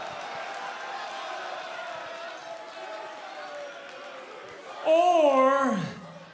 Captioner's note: crowd cheering